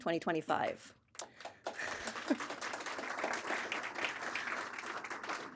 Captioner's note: audience applauding